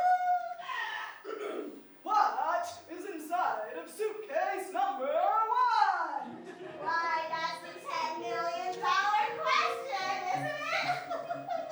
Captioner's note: ahem